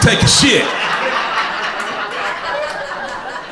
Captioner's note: crowd laughter